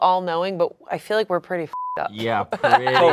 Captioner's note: beep